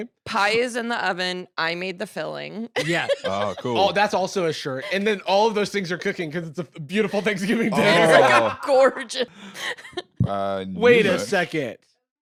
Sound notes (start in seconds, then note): 7.2 laughs